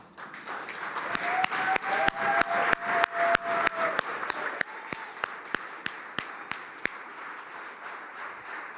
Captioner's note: applause